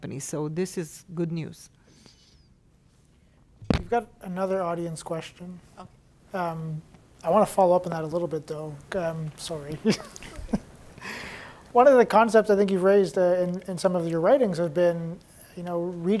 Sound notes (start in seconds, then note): 9.8 laughs